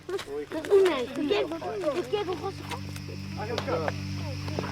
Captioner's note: foreign language